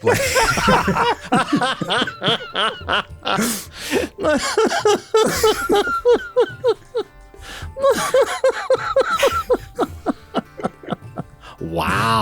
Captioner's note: whole group laughing